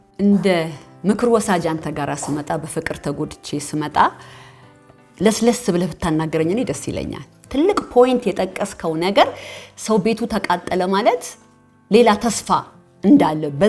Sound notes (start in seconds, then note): none